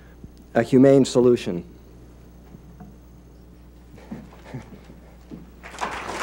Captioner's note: applause